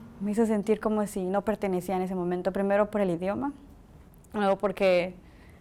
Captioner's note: speaking Spanish